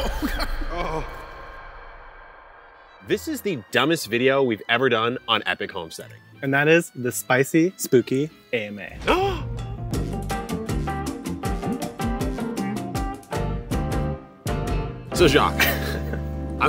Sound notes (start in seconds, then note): 1.4 grunts; 9.0 playful upbeat music; 9.1 gasps; 15.5 both laughing